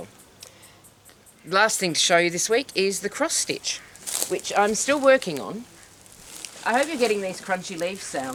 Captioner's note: leaves crunch